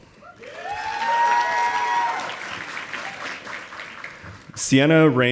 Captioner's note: audience applauding